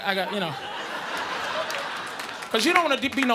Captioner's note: audience laughing